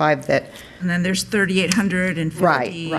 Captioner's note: woman's Voice